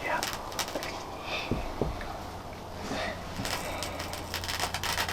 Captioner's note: shuffling noises